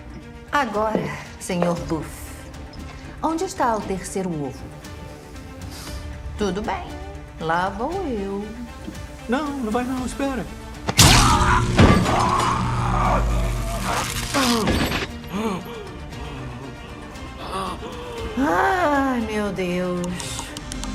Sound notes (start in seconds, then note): 11.0 screaming; 11.0 electricity buzzing; 15.1 breathing heavily